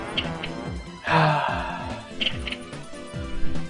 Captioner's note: sighs